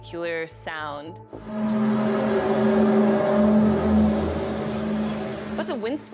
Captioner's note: groaning sound